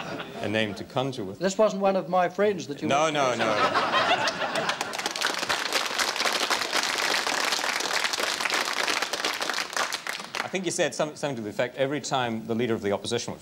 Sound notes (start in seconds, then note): 0.0 laughter; 4.2 applause